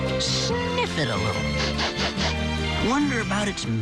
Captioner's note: sniffing